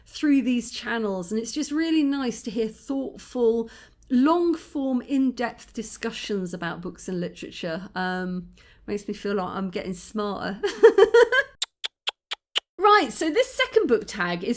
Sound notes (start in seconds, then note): 7.9 goofy accent; 10.8 laughing; 11.4 tutting